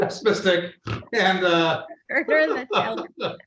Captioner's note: laughs